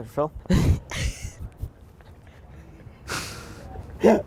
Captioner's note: all laughing